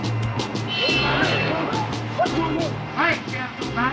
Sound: bell ringing

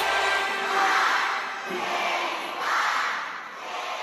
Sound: crowd

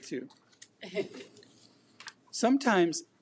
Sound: audience laughs

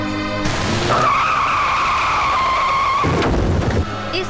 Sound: tires Screeching

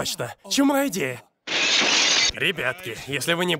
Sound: broken window ringing

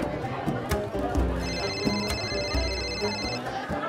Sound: phone ringing

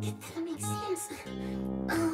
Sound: grumpy bear mutters to himself

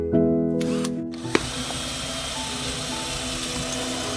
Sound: drilling

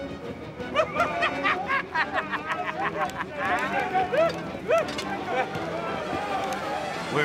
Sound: laughter

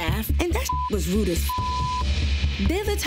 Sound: beep

